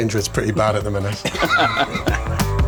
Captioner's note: laughter